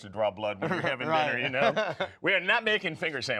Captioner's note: laughs